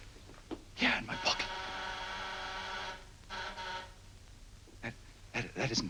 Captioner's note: door buzzer